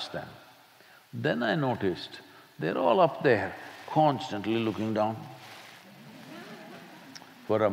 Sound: few laugh

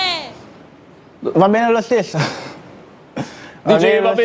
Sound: chuckles

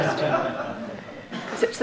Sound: laughter

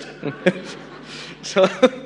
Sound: audience laughs

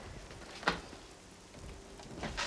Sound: fridge door opens

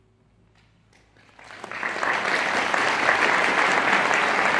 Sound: audience applauding

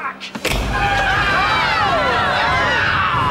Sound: screaming

